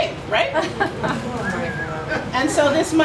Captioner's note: laughter